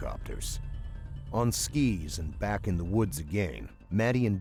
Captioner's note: voiceover